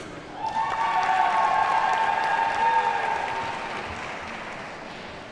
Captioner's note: audience cheers and applauds